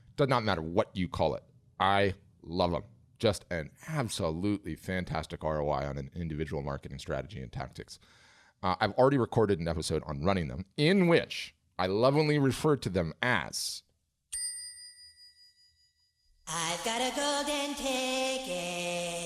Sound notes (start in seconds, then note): 14.3 bell dings; 16.6 sing Song Voice